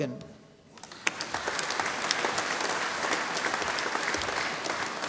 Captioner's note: audience applauding